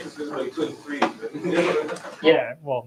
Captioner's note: laughter